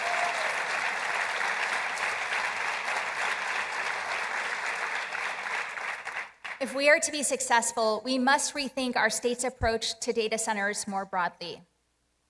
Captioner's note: applause